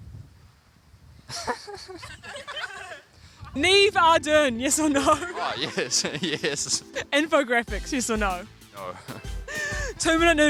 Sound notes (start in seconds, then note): 1.3 laughs